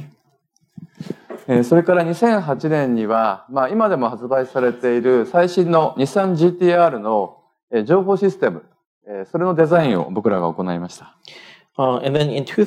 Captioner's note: speaking japanese